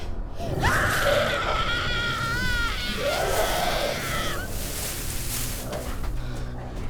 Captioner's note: creature growling; girl screaming